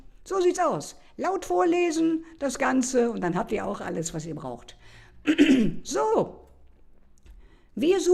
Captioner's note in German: räuspern